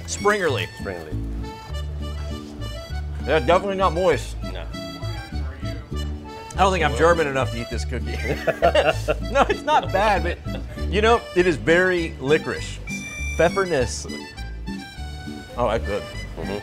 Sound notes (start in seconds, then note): 8.0 laughter